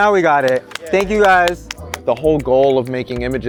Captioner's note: claps